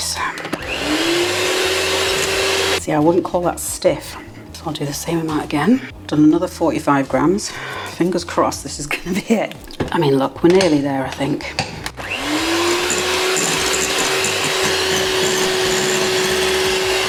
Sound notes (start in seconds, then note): 2.7 cake mixer whirring